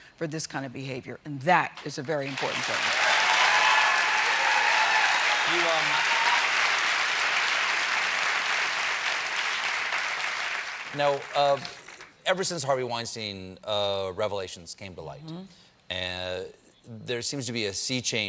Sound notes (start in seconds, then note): 5.3 cheers and applause